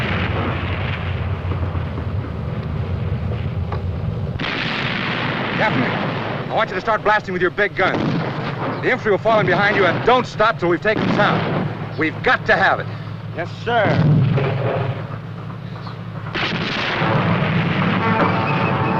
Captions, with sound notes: - Captain, I want you to start blasting with your big gun. The infantry will follow behind you and don't stop until we've taken the town. We've got to have it. - Yes, sir. [gun shots]